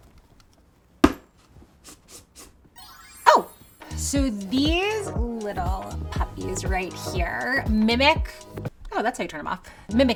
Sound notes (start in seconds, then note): 1.0 light thuds; 2.8 light chimes